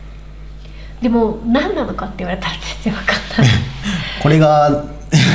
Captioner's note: laughs